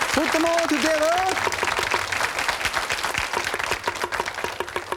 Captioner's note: audience applauds; knife banging